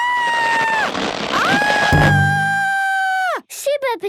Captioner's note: screaming